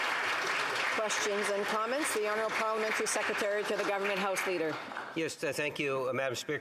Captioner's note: applause